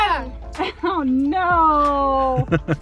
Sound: laughs

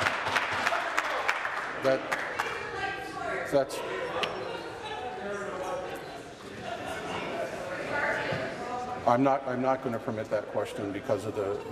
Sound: applause

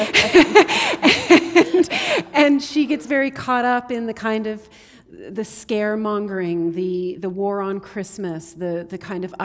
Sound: laughter

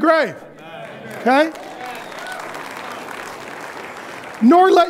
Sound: audience applauding

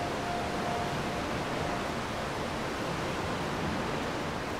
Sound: water rushing

